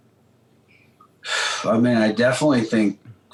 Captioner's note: sighs